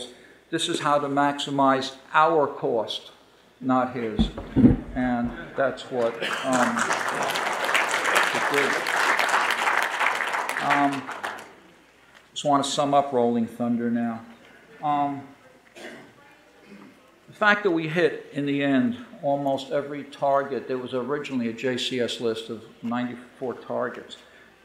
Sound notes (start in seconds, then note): 5.5 audience applauding